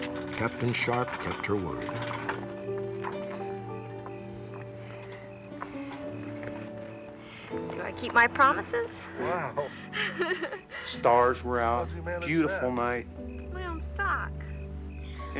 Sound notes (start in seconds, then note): 9.7 laughter